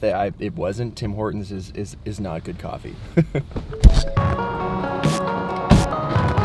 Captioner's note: laughs